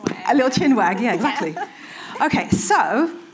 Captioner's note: chuckling